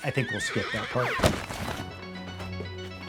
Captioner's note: horse neighing; uptempo music